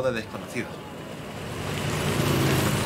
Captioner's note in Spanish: Ruido trafico